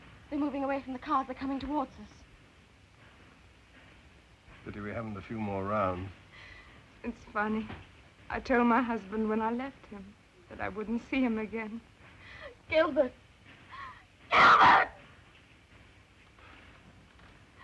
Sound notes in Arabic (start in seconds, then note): 14.3 يئن